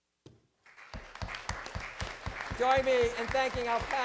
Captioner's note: applause